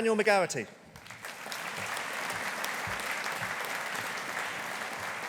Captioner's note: audience applauding